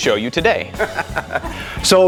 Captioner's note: laughing